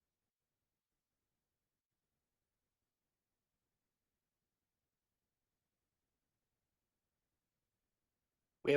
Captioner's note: audio cuts out